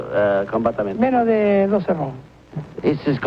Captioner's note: speaks in Spanish